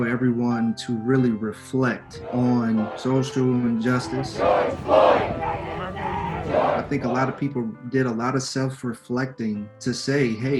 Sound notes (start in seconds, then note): 4.3 Crowd chanting: George Floyd